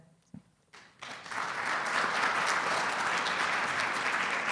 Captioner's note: audience applauding